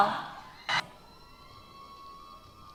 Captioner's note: cheers